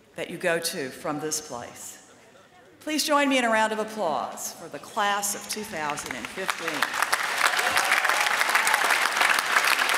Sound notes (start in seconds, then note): 5.8 applause